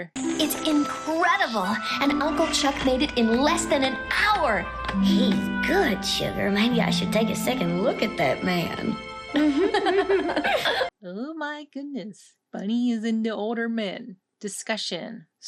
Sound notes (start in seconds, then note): 9.3 giggling